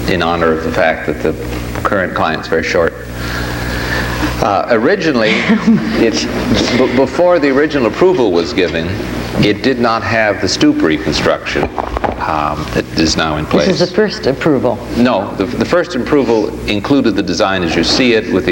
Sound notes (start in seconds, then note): 5.1 laughs